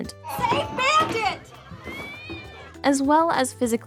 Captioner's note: cat howling